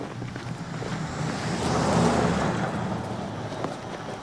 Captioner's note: car passing